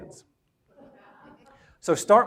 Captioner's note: audience laughs